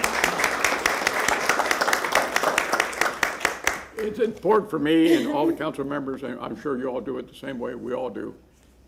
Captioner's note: applause